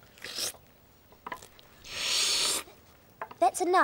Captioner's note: slurping loudly